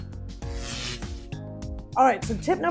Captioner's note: gentle music; buzzing